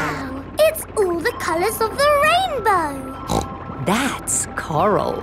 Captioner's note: snorts